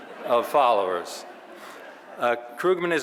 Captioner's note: audience laughing